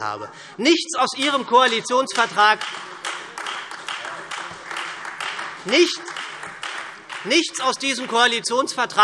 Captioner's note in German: Heiterkeit und Beifall SPD und Freie Demokraten